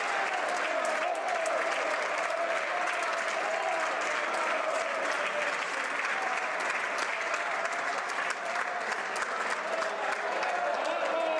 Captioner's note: cheering and Applause